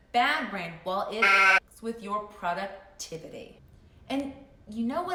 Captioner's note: sheep baaing